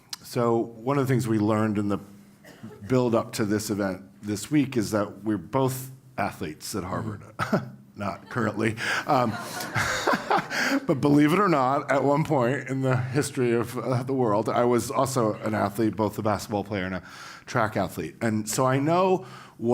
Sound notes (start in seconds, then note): 8.1 laugh